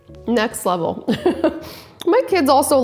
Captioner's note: laughing